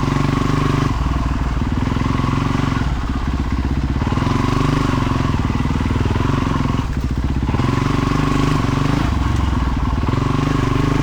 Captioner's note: engine roaring